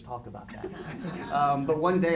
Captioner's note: audience laughing